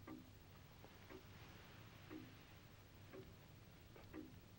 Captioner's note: clock ticking